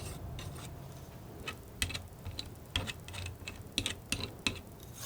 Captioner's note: tapping